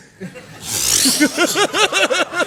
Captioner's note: laughter